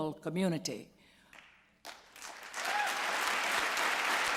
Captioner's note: applause